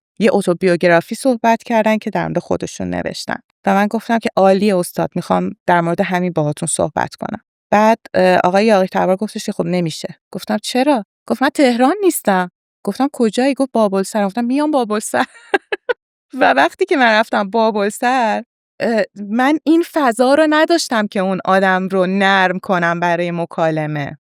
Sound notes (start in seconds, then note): 15.8 laughs